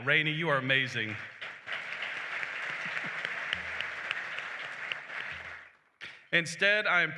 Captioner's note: applause